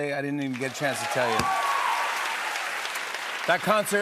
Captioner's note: cheers and applause